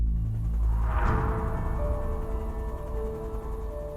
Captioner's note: suspenseful music; helicopter whirring